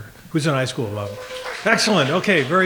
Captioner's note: clapping